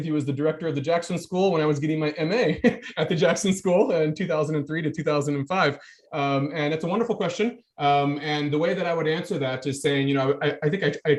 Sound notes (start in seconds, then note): 2.3 chuckling